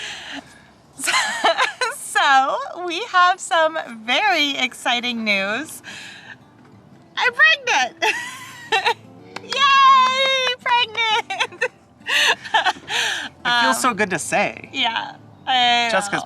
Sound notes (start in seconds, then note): 1.1 chuckles; 8.1 chuckles; 9.3 claps; 12.2 chuckles